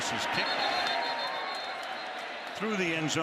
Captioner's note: whistle